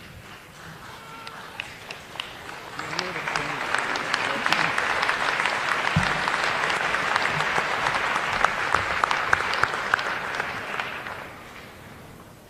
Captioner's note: applause